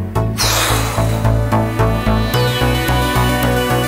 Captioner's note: heavy sigh; synth music